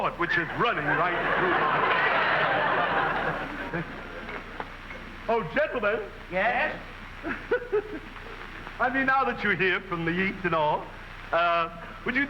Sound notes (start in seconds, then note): 2.7 audience laughing; 7.2 man laughing